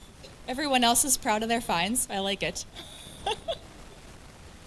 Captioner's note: laughs